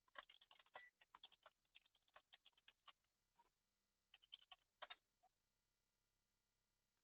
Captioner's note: computer keyboard keys tapping